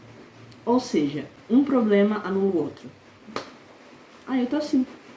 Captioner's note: clap